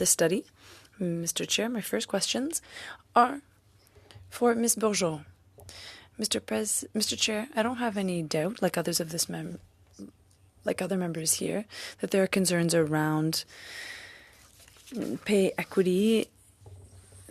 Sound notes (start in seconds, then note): 5.4 speaking French